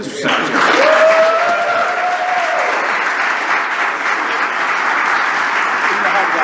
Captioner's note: applause